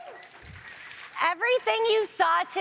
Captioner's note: audience applauds